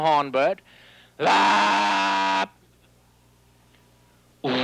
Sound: imitates horn; imitates engine

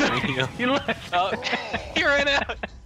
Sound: laughing

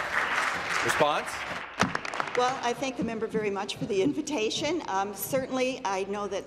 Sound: voice trailing

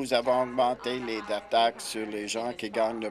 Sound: chuckles

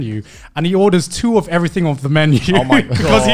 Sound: laughs

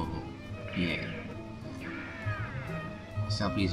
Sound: gunshots and yells from a Wild West movie

